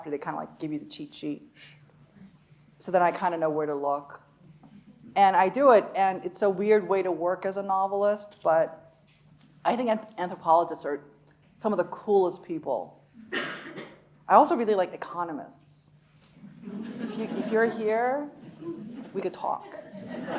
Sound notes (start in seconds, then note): 16.5 audience laughs